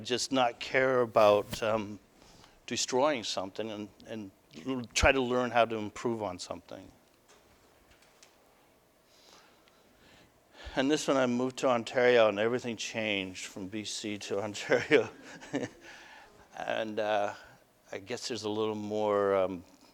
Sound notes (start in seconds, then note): 14.7 laughter